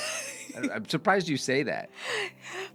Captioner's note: laughs